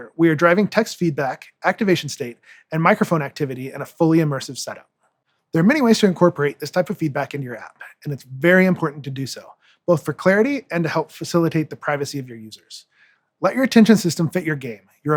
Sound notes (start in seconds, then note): none